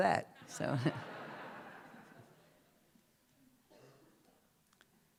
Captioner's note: laughter